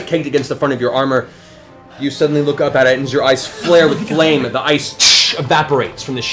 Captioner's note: shatters